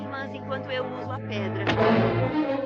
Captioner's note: thuds